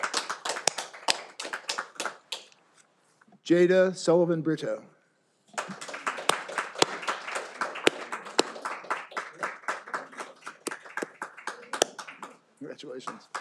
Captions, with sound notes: Jada Sullivan-Brito. (all applauding) Congratulations.